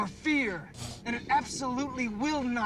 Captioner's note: electrical charges